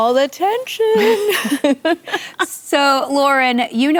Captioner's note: laughter